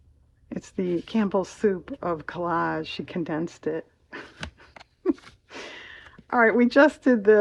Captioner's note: laughs